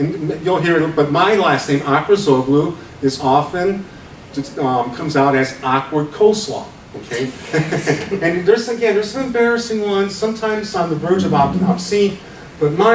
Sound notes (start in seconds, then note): 6.7 laughs